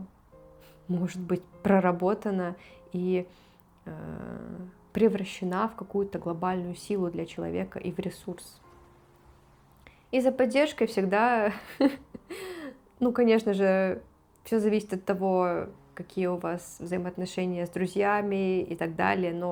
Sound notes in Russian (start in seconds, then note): 11.5 смех; 12.3 тяжело вздыхает